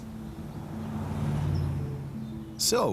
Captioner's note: vehicle whooshes past